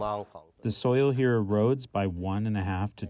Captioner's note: through translator